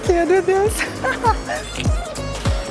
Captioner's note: chuckles